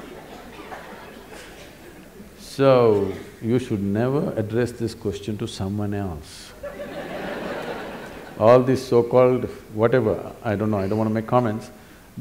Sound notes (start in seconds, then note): 0.0 laughter/Applause; 6.6 laughter